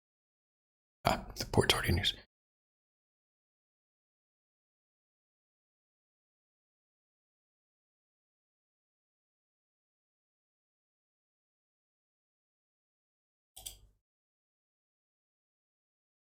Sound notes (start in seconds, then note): 0.0 blank Audio